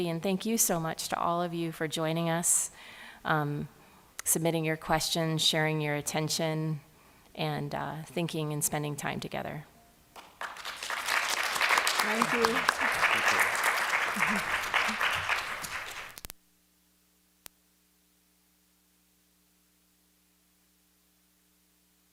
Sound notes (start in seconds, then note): 10.1 applause